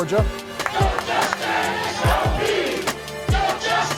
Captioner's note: chanting in unison